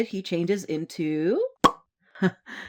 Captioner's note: pop!